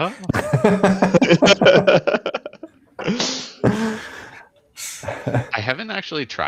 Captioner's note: laughter